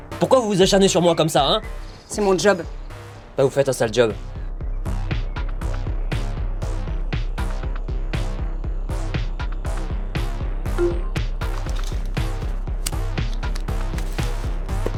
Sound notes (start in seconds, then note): 5.4 tense music; 10.8 computer beep